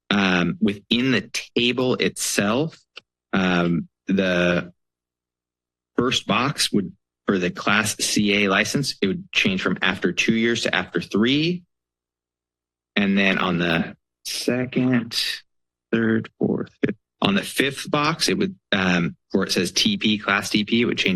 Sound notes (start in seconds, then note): 13.0 pause